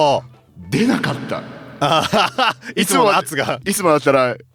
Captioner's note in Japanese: 笑い